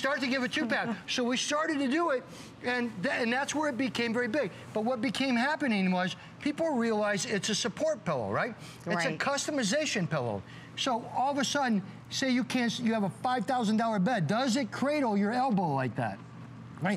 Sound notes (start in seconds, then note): none